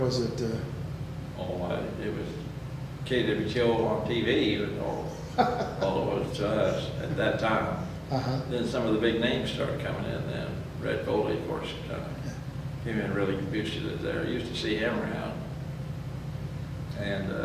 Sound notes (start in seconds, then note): 4.8 laughs